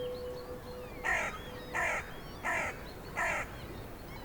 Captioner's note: bird cawing